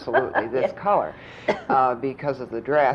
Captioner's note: laughs